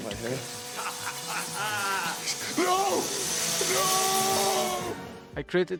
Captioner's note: evil laughter